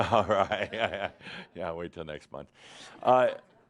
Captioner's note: chuckling